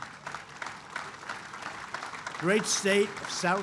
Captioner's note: applause